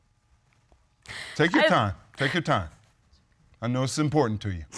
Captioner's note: sobbing